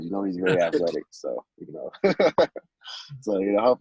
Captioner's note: laughter